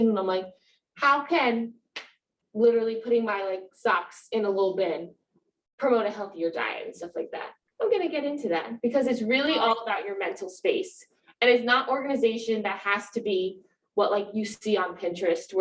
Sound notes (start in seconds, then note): none